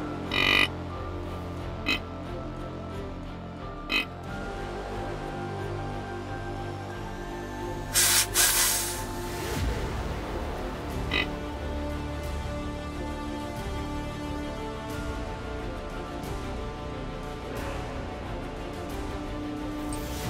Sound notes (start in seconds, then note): 0.2 deer call grunting; 4.2 intense music continues; 7.9 deer call snort wheezing; 11.4 intense music continues